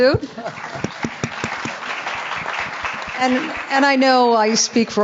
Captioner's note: audience and panelists clapping